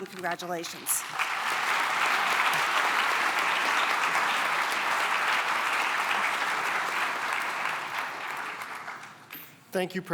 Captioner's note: applause